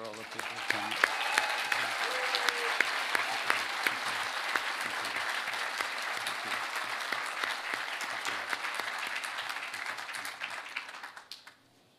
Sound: applause

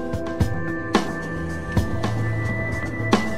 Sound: car passing

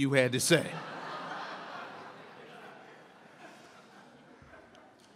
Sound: audience laughs

